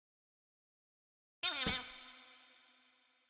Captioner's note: creature Sound